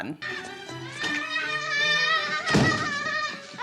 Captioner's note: boy screaming